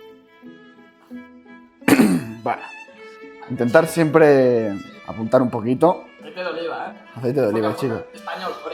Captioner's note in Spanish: carraspeo